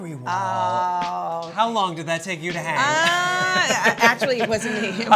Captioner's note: laughs